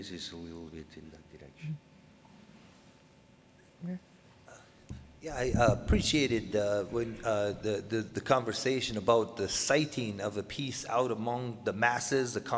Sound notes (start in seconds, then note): 5.7 voiceover